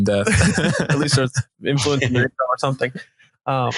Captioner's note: both laughing